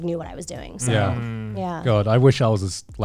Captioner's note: guys humming in agreement